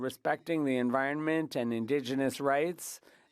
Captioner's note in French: voix de l'interprète